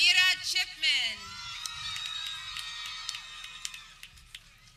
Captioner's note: people cheering